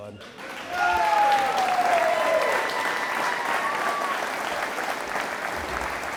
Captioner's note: audience applauding